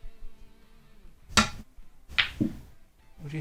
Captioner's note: ball thuds